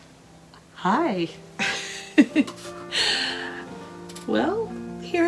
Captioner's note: laughter